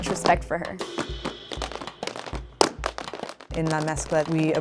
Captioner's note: shoes tapping